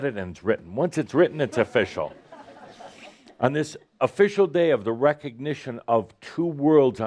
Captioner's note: laughter